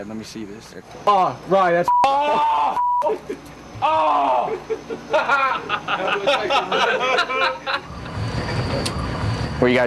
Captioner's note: groans and laughs and ohs